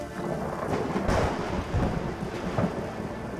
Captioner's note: thunderclap